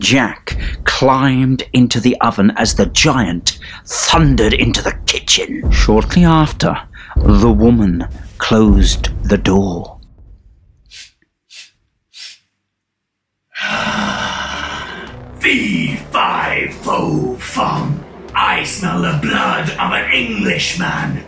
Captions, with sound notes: Jack climbed into the oven as the giant thundered into the kitchen. Shortly after, the woman closed the door. (Sniff, sniff, sniff) aaahhhhh..... Fee – fi – fo – fum, I smell the blood of an Englishman.